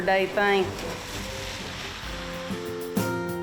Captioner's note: car whooshes; uplifting music